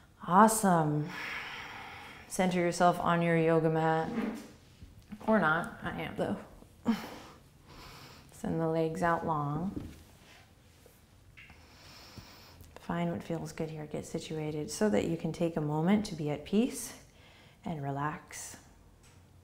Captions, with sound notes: Awesome. (breathing) Center yourself on your yoga mat. Or not. I am though. Send the legs out long. Find what feels good here. Get situated so that you can take a moment to be at peace. And relax.